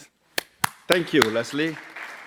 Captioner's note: applause